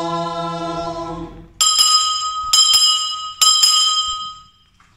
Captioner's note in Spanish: suena la campana tres veces